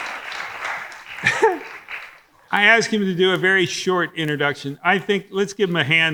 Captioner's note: audience applauding; laughs